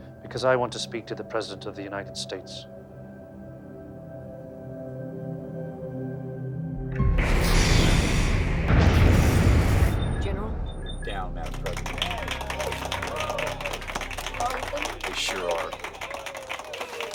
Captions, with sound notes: - Because I want to speak to the President of the United States. (explosion blasts) - General. - Down that drone. (hands clapping) - Are we finished? - We sure are.